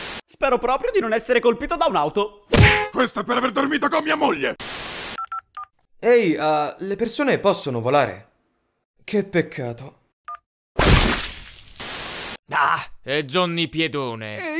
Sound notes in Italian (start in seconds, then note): 2.5 pugno + clacson; 5.3 beep boop; 10.7 splat